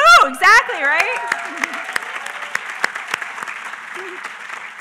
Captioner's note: applause